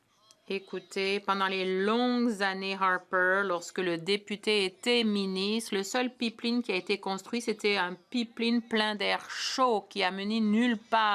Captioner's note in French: voix de l'interprète